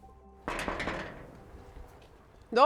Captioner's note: knocks on gate